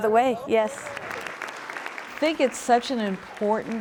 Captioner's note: applause